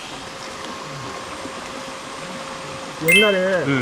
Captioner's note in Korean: 기계음